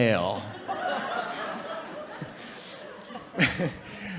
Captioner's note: audience laughing